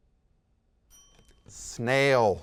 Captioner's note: timer chimes